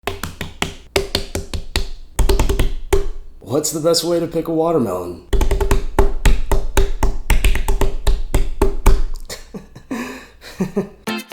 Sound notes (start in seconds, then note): 0.0 tap, tap, tap, tap; 0.0 tap, tap, tap, tap,tap; 2.0 tap, tap, tap, tap